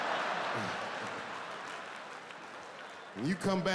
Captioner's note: audience laughing